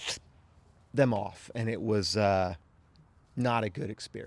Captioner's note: ripping sound effect